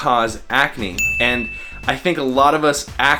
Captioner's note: bell ringing